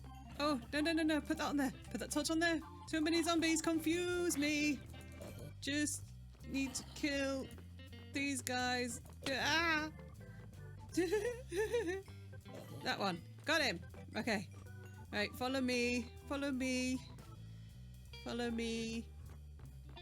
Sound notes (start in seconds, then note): 10.9 laughing